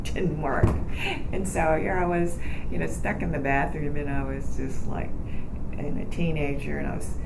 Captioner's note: laughs